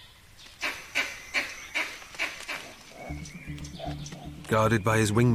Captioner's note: squealing